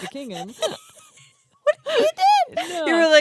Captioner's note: laughs